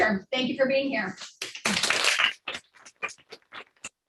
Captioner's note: clapping